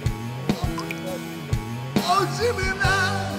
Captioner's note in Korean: 울먹울먹?